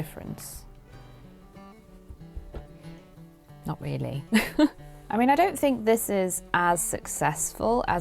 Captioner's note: laughs